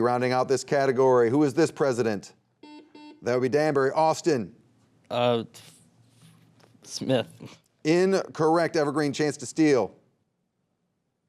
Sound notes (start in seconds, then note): 2.6 buzzer beeping